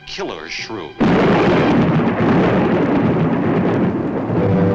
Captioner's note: thunder claps; ominous orchestral music